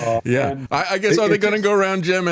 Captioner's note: laughing